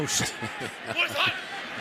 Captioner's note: laughs